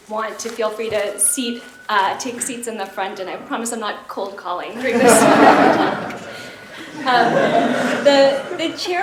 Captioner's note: laughter